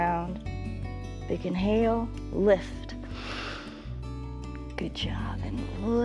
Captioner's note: inhales